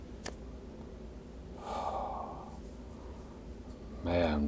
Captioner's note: sighs